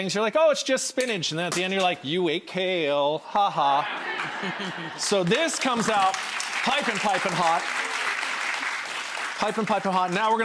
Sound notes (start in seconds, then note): 3.6 crowd laughs